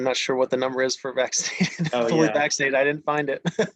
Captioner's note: laughs